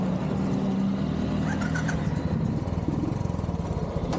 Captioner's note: engine starting